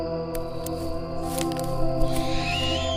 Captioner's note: screeching, branches snapping